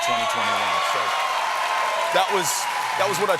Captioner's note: applause